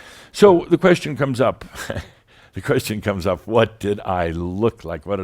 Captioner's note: Adamus chuckles